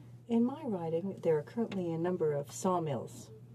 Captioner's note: speaking in french